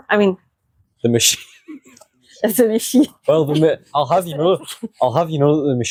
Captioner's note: laughter